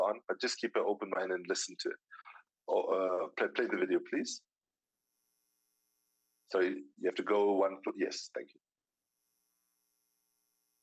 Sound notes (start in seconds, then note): none